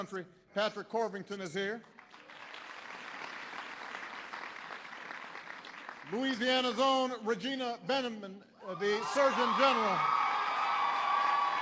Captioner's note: applause; applause